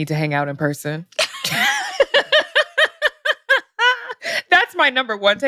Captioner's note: laughter